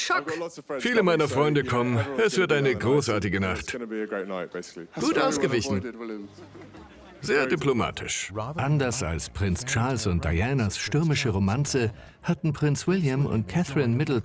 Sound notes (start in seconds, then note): 6.3 laughing; 8.1 voiceover